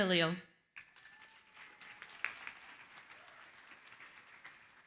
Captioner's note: applause